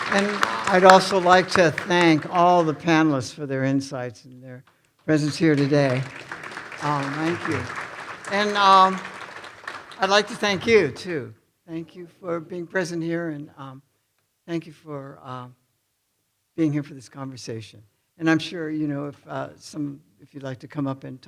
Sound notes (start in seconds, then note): 0.0 audience applauding; 5.1 audience applauding